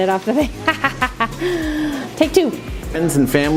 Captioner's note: laughing